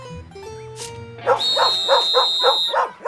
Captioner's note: whistle blows, dog barking